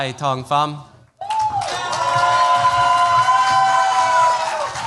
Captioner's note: cheers, applause